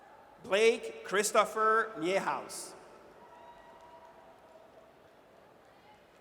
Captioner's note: audience cheers